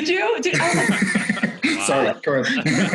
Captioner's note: laughs